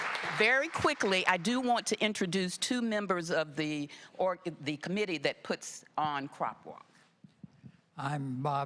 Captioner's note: applause